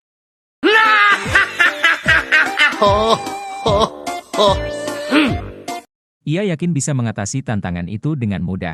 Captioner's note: laughs